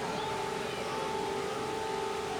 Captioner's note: kids playing and shouting